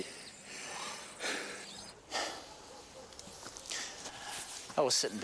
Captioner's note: breathing heavily